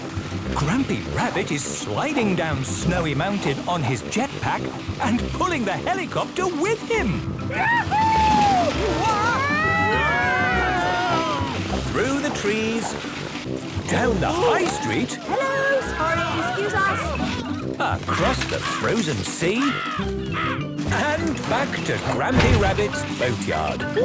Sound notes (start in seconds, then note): 9.1 all screaming excitedly; 19.6 birds cawing; 22.1 bangs